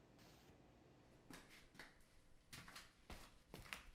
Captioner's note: footsteps